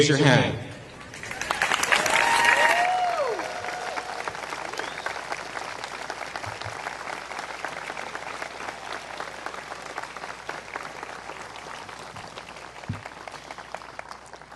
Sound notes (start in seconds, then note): 1.0 applause